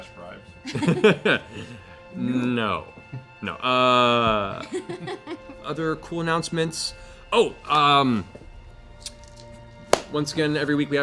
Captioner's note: laughs